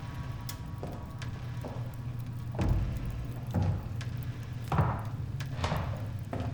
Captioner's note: footsteps thudding; tense music continues